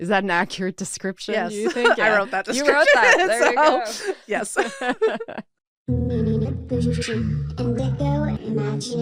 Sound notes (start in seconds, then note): 1.6 laughs; 4.8 people laughing